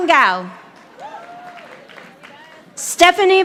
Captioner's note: audience applauding